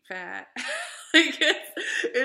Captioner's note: laughing